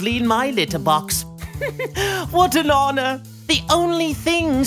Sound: laugh

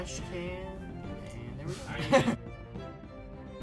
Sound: chuckles

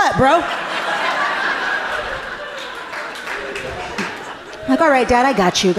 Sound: audience laughing amusingly

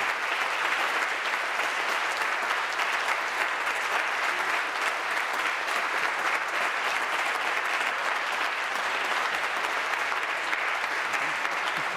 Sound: applause

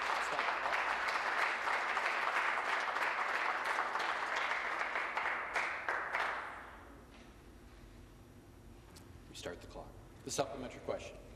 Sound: applause

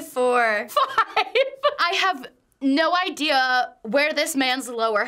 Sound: laughs

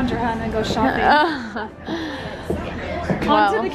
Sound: laughs

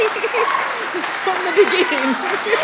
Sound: applause

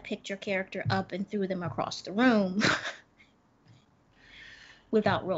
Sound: chuckles

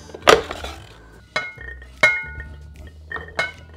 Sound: chickpeas dropping

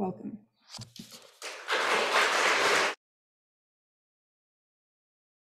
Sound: audience applauding

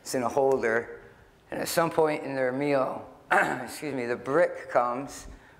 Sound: clears throat

